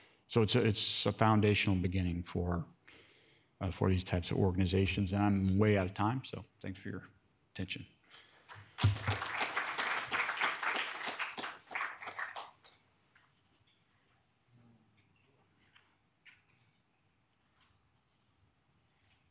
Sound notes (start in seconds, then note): 8.5 audience applauding